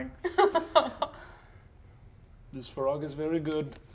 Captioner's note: laughs